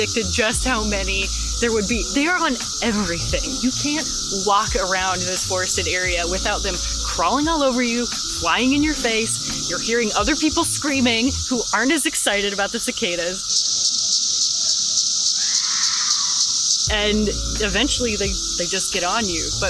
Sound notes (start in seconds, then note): 12.2 chirping; 15.3 distant scream